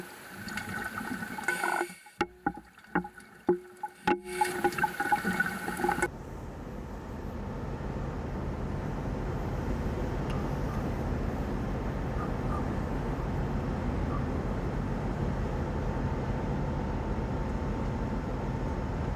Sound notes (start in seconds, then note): 6.1 boat engine sound